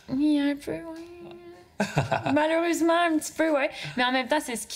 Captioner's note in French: rire